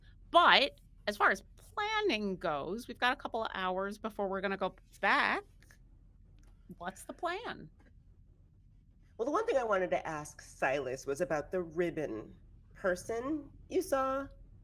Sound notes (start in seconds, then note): none